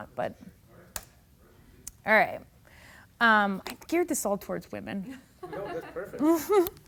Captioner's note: laughing